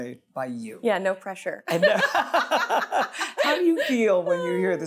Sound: both laughing

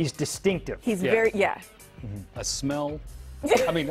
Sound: laughter

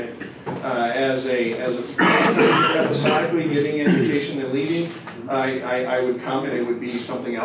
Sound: cough-cough

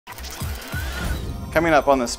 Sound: machine gears clicking

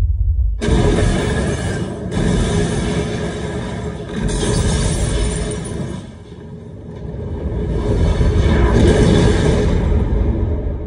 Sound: shattering

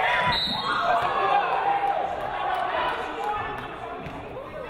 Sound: referee blows whistle

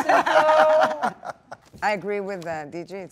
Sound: Dwayne and Gal laughing

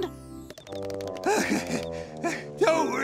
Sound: panting

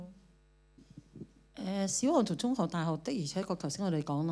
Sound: Cantonese

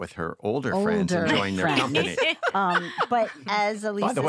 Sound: all laughing

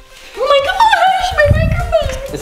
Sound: yells

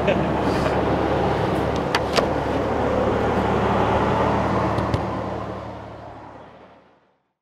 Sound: road noise

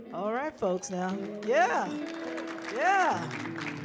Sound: people clapping

